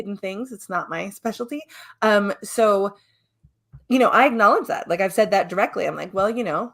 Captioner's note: none